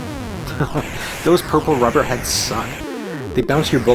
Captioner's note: chuckles